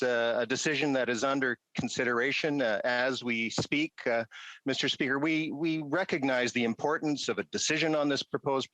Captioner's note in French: voix de l'interprète